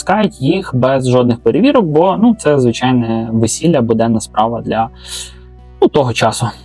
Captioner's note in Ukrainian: сопіння